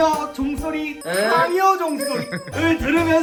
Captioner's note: ring